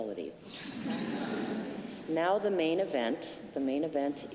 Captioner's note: laughter